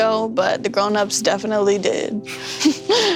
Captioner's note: laughs